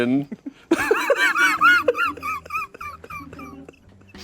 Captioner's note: everyone laughs